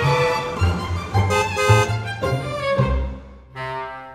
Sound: car honking

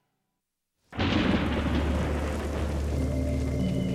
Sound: thunder

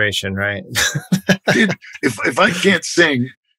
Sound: laughter

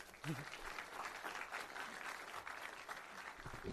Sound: applause

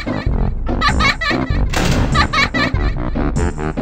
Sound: child Laughing; door Slam, Laughing stops

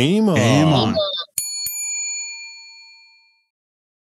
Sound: bell dings

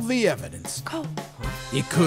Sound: whispered

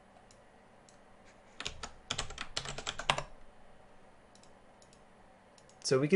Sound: keyboarding

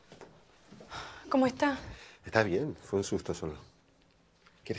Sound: sighs

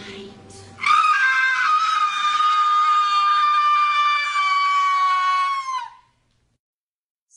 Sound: screams

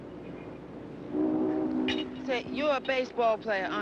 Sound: boat horn blaring

